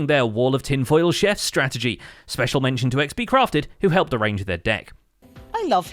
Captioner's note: none